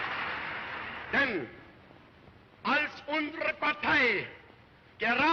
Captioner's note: speaking in German